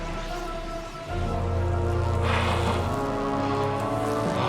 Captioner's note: machine whirring